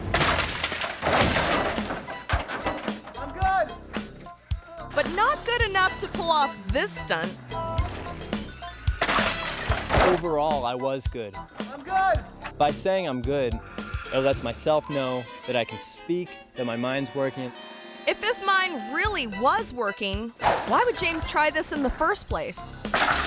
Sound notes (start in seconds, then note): 0.0 body thuds; 0.0 bike clatters; 8.9 body thuds; 9.0 bike clatters; 22.6 bike clatters; 22.9 body thuds